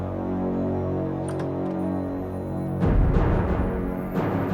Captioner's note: door opens